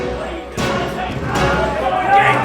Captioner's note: men clamor